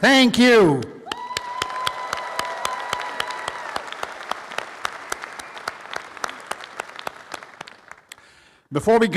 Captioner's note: applause